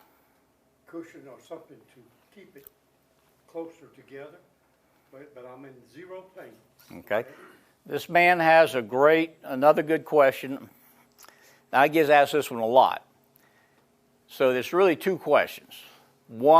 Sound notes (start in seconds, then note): none